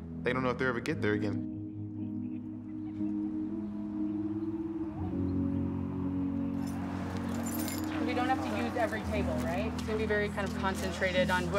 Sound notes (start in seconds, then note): 3.0 birds chirping; 3.0 relaxing music continues